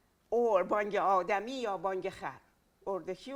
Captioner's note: speaking in Farsi